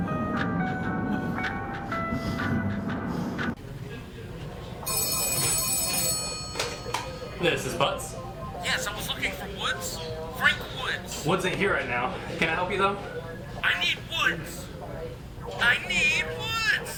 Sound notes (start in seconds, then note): 4.8 phone ringing